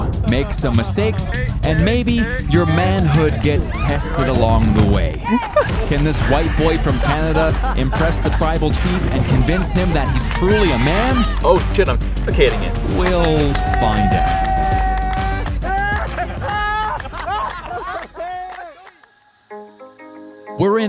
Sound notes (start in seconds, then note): 15.1 people chanting; 15.1 people clapping; 17.1 people laughing